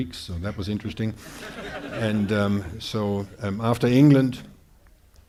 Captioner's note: audience laughing